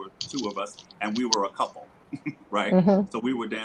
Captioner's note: laughs